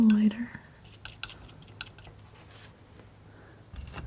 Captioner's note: scratching